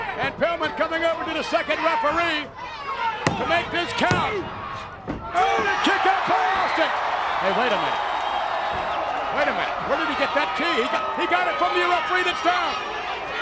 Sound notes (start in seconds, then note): 3.2 hands thudding